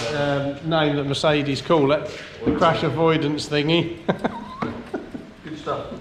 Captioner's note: laughs